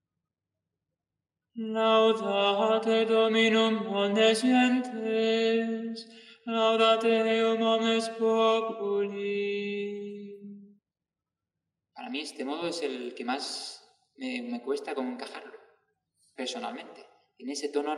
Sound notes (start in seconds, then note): 1.4 chant